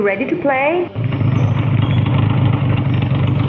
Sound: engine Idle

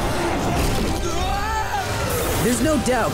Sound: screaming

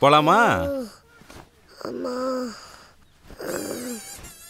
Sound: kid moaning

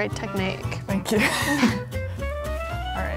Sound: laughing; upbeat whimsical music

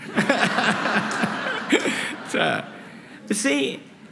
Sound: laughter

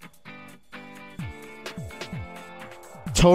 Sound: none

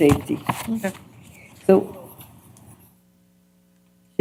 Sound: indistinct chatter

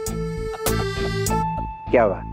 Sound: laughs

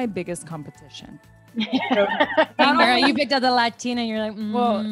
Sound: laugh

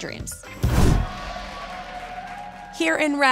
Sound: audience cheers

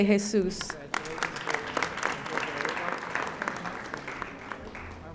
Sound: audience applauding

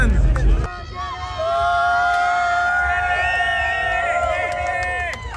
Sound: people clamoring

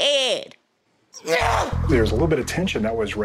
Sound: Tammy yells

